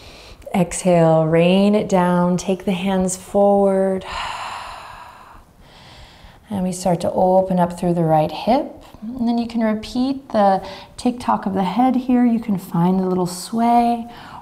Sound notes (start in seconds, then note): 0.0 inhaling deeply; 4.0 exhaling deeply